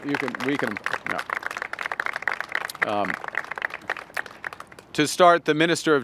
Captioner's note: applause